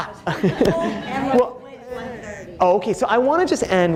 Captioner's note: audience laughing